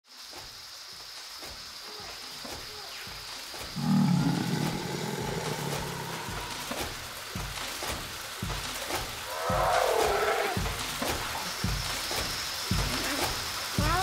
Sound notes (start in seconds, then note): 0.0 trees rustling; 3.7 dinosaur roar; 9.2 other dinosaurs roar; 11.3 marching footsteps